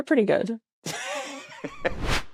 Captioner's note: laughs